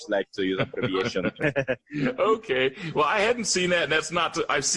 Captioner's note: laughter